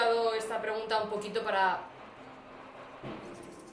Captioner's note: firecrackers